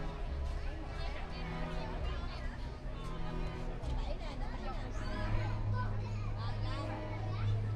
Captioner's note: people chattering